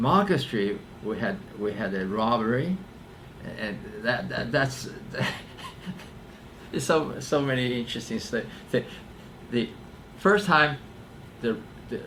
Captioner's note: laughs